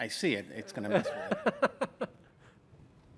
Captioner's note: laughter